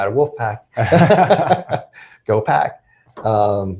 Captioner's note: laughing